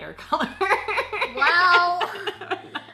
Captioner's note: laughs